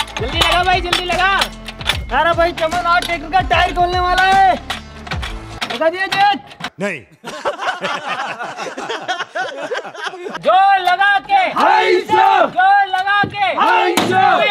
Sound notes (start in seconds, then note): 7.1 laughing